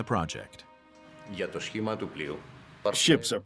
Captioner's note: speaking Greek